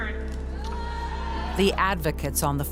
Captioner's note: crowd boos